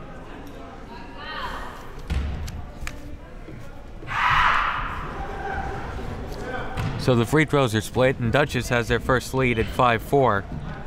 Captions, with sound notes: (screaming) So the free throws are split and Dutchess has their first lead at 5-4.